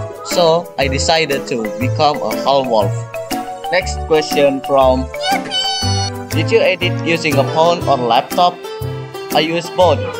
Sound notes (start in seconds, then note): 5.1 yipee sound